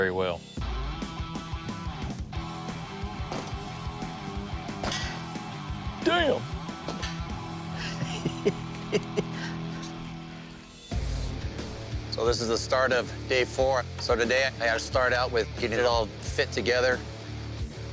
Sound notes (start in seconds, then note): 0.1 rock music playing; 6.8 laughs